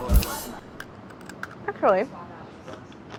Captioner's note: crunches